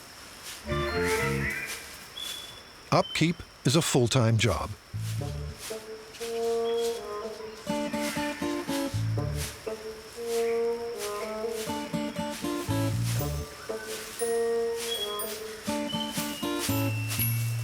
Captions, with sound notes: [playful music] Upkeep is a full-time job. [playful guitar music] [leaves rustling]